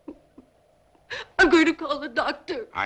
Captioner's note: Virginia sobs